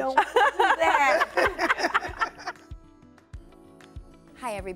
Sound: laughing

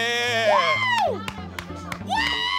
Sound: applause

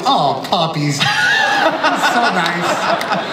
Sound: laughs

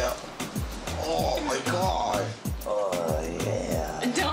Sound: groaning

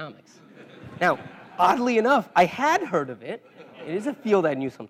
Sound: laugh

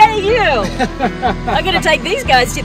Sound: laughing

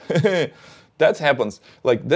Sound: chuckles

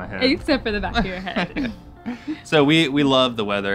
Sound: chuckle

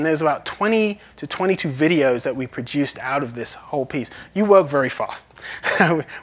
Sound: laughs

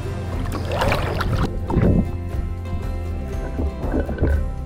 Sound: water splashes

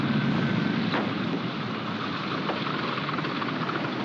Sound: door opens

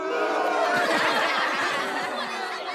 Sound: booing; laughing

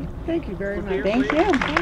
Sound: applause

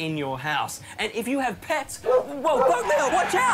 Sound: barking

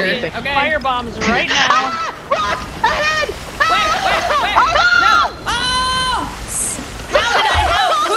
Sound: laugh

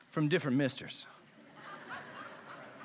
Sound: laughter

